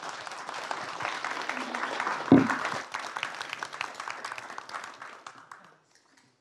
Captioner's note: applause